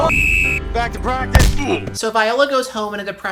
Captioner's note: whistle; Vine boom